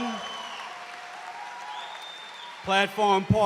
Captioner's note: cheers and applause